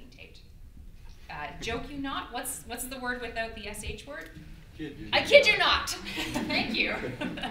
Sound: audeince laughter

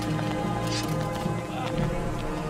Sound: sword unsheathing

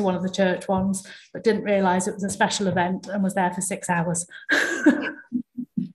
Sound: laughs

